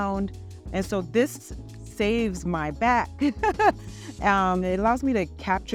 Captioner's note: chuckles